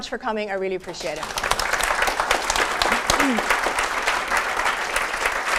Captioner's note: applause